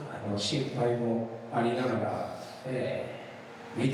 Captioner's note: speaking foreign language